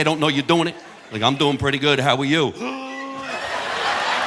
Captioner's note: audience laughing; gasps